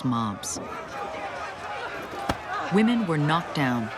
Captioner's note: people shouting